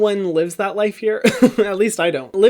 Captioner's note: laughs